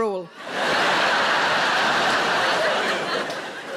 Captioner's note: audience laughs